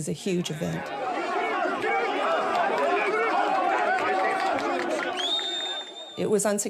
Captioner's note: yelling